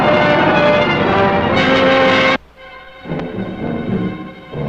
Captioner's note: tank engine rumbling